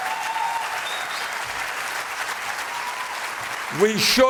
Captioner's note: applause